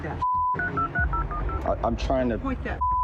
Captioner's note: pad beeping